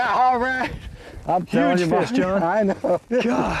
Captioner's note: laughter